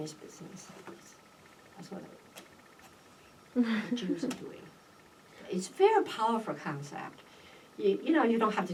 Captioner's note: laughs